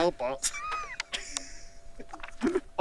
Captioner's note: laughter